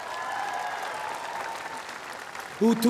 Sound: cheers & applause

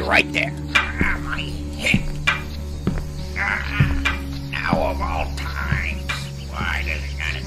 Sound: cane clacking on floor

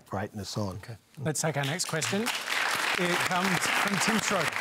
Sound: applause

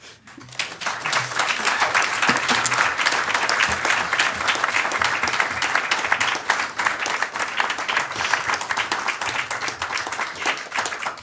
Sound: applause

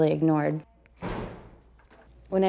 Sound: door closing

